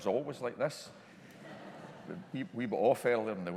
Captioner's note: congregation laughing